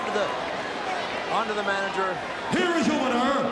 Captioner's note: crowd cheers